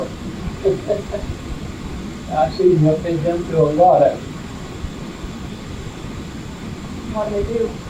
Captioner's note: laughs